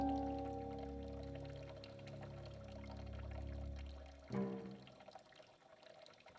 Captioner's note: water sloshing continues